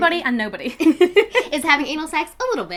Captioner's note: laugh